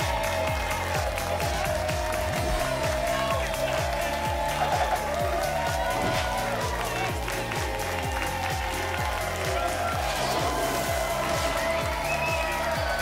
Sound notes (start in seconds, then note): 6.0 whoosh; 7.0 applause and cheering cont; 9.9 whoosh; 11.0 applause and cheering cont